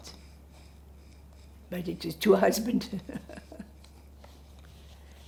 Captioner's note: laughing